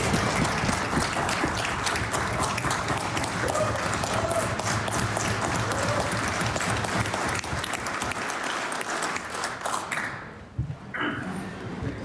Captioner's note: applause